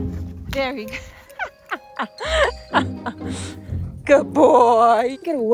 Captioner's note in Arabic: يضحك